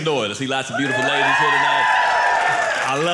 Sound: audience cheering

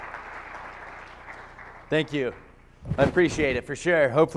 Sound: applause

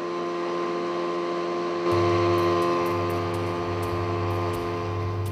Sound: small boat engine

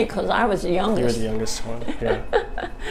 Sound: chuckles

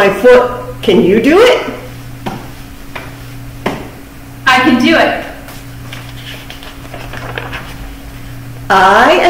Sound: stomps feet on floor

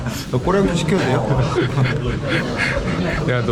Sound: laughing

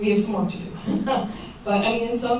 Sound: chuckles

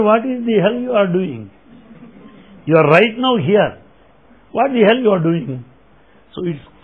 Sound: laughter

